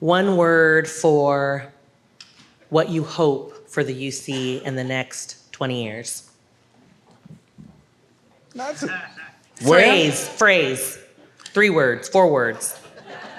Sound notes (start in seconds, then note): 9.2 audience member laughs